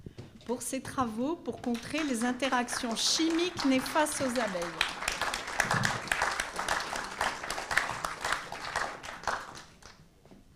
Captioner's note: applause